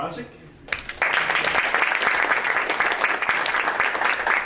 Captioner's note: audience applauding